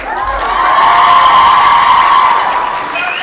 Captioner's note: cheering and applause